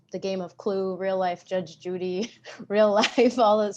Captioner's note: chuckles